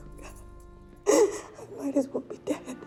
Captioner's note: sobs